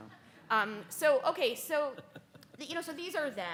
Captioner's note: speaker laughs